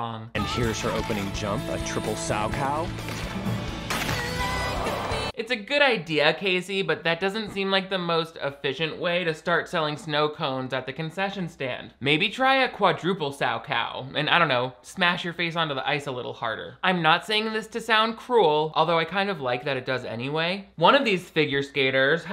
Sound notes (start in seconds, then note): 2.6 crowd gasps; 2.6 upbeat music